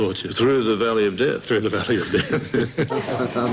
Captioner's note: chuckles